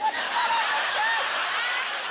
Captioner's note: laughter